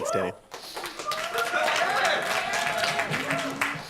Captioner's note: applause